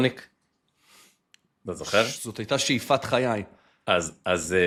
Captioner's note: snorts